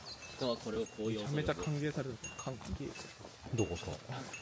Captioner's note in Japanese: チリーンチリーン